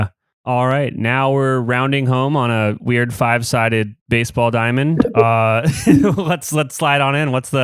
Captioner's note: laughs